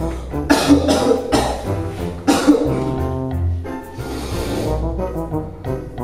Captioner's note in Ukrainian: Бридко кашляє